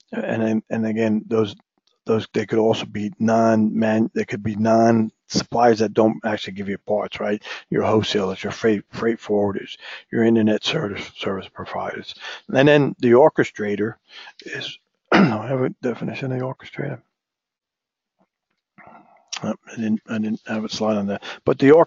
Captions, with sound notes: And, again, they could be non-supplies that don't actually give you a bar trade, your wholesalers, your freight forwarders, your Internet Service Providers. And then the orchestrator is, [COUGH] I have a definition of the orchestrator. I have a slide on that, but